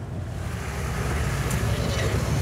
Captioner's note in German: Rauschen, Erbrechen